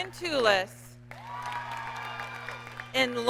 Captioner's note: audience cheers and applauds